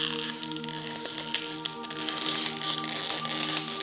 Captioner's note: peeling